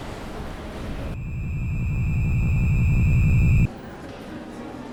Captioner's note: traffic sounds; eerie tone playing; background crowd sounds